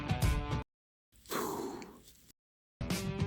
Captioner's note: breath